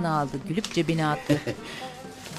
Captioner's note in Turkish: Gülme sesi